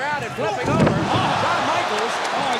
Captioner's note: bell rings